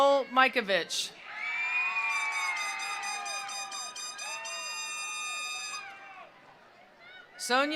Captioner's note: attendees cheering; attendees applauding